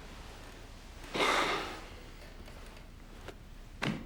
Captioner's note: sighing